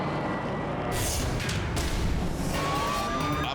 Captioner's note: logo swooshing